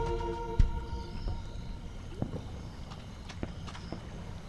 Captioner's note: sea waves crash